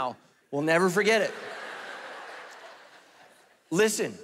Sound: congregation laughing

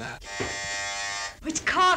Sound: buzzer buzzing

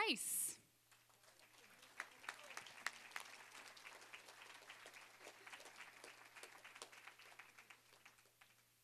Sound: applause

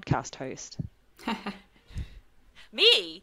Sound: laughs

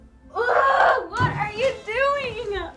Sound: yelling

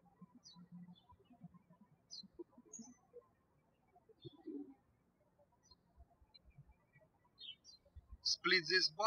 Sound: birds chirping

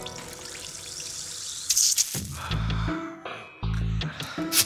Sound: bubbles fizzing

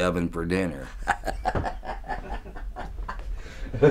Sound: evil laughing

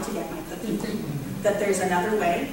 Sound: audience chuckles

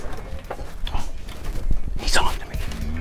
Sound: whispering; beeping

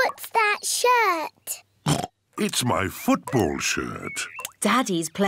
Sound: oinks

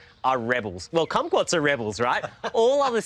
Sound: laughs

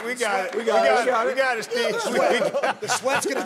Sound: laughter

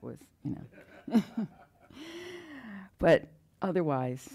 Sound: laughing

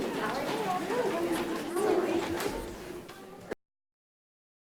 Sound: people chattering

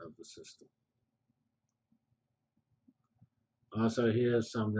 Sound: pause

